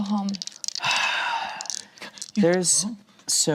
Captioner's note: sighs